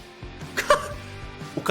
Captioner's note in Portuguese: risos